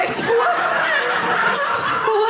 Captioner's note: audience laughing